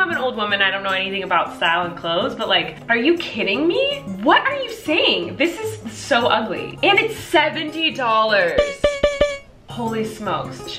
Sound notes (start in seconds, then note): 8.6 beeping